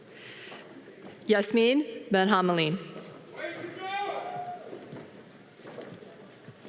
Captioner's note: audience cheering